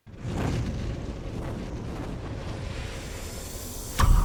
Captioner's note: logo roaring